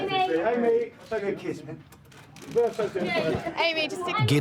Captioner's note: cameras flashing; photographers chattering